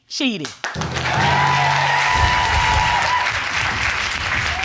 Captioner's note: cheering and applause